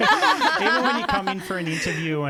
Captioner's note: laughing together